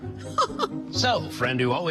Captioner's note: laughs